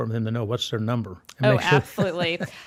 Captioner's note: laughs